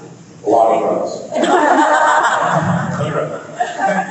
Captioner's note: laughs